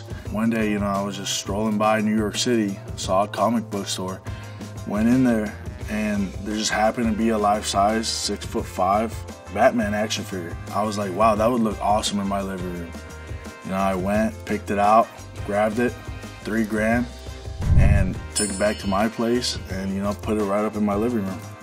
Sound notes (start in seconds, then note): 18.2 ding